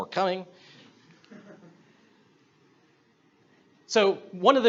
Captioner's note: audience laughs